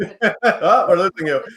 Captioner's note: laughs